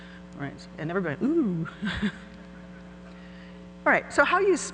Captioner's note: laughs